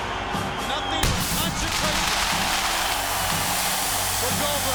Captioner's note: crackers banging